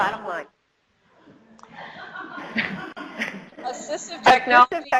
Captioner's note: audience chuckles